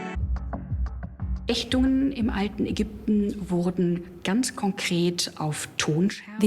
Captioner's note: speaks German